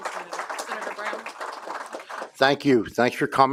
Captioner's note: applause